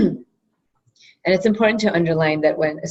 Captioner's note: cough